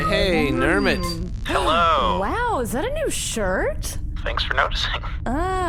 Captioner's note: transmission connection noise; gasps